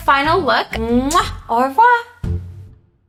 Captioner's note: lips smack